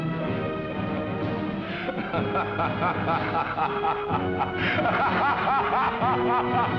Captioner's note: laughter